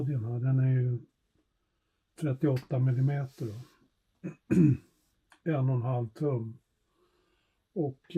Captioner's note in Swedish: harklar sig